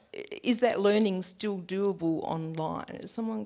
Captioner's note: none